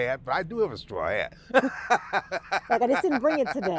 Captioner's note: laughing